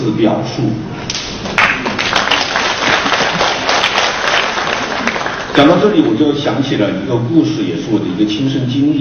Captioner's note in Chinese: 众人鼓掌声